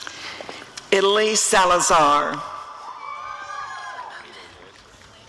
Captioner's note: audience cheering